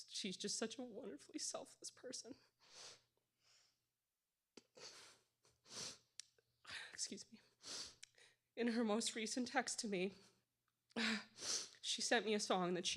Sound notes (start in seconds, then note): none